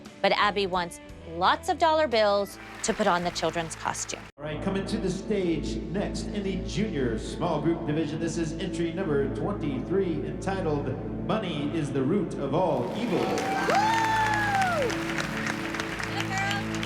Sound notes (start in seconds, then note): 12.7 applause; 12.8 cheering; 14.9 applause continues